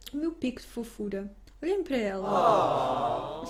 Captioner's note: awww